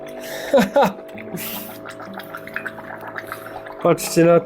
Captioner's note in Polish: śmiech